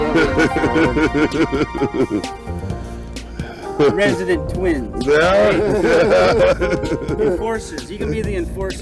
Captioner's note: laughter